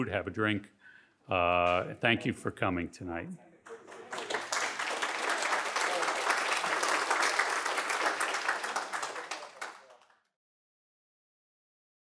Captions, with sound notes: have a drink. Thank you for coming tonight. (audience applauding)